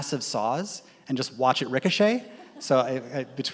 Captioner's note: audience laughs